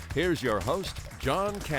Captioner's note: applause